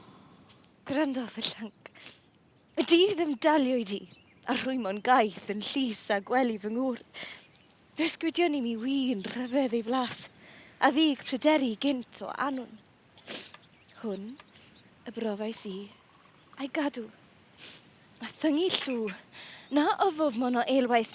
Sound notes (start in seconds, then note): none